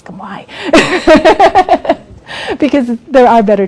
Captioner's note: laughs